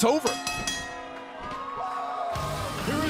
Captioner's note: bell ringing